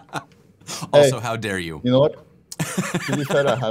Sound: laughter

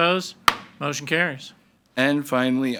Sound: gavel bangs

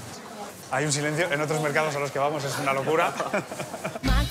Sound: laughs

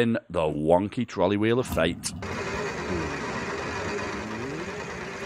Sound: wheel spinning

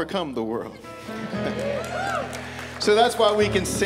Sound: applause

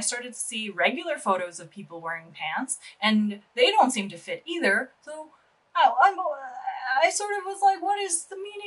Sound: stammering confusion noises

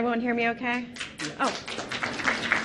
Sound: audience applauding; laughs

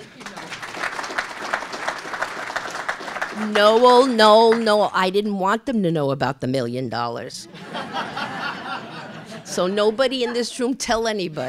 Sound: laughter

